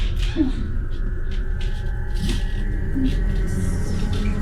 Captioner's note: Jessie moaning quietly